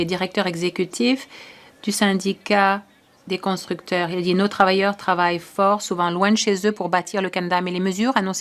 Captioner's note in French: voix de l'interprète